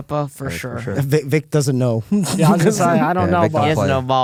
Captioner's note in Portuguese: risos